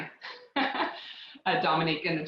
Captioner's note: laughs